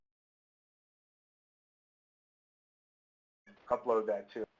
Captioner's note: silence